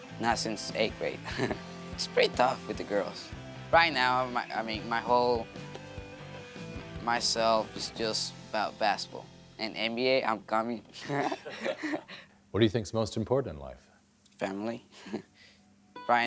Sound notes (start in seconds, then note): 10.9 laughs; 15.2 laughs